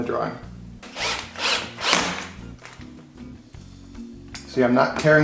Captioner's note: cordless drill turning